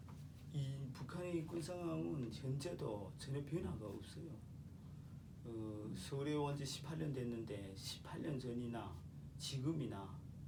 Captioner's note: speaking korean